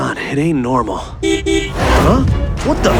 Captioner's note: horn